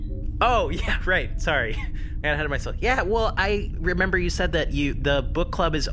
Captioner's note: laughing